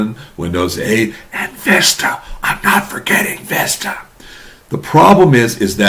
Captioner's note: whispering